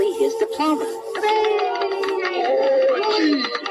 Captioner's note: applause